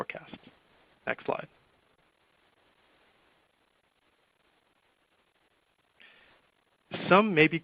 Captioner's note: silence